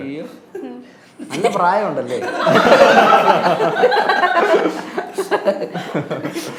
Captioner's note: laughs